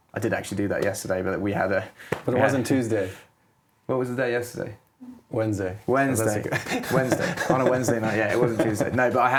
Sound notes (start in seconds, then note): 6.4 laughing